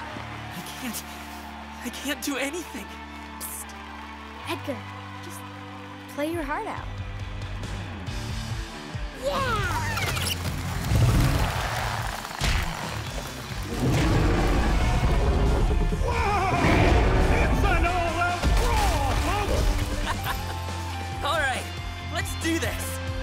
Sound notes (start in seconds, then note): 13.6 roars; 19.8 laughs